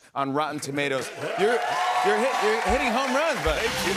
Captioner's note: cheers and applause